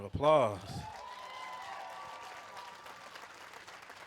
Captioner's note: applause